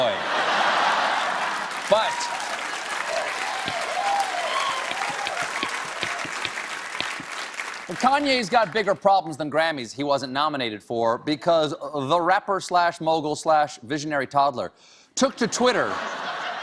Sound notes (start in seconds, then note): 0.0 cheers; 0.5 applause; 15.4 laughter